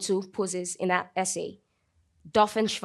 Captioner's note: speaking in German